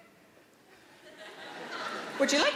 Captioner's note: audience laughing